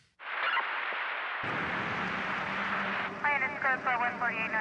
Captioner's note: police radio chattering